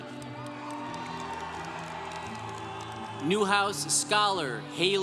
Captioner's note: congregation cheering